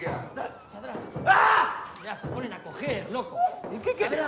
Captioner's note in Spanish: paseador grita